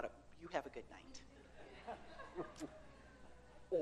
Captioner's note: audience laughs